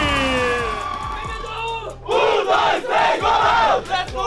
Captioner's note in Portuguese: grito de guerra